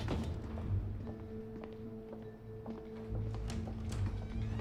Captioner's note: hinges squeaking; shoes clacking